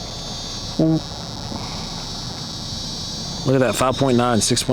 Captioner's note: eerie buzzing